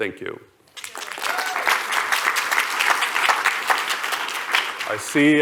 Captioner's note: applause